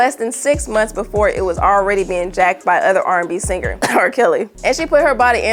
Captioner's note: clears throat